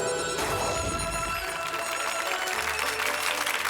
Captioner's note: applause